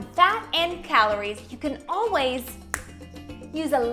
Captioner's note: fingers snap